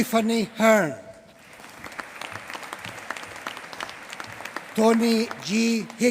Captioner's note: applause